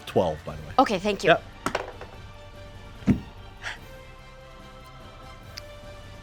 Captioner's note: dice roll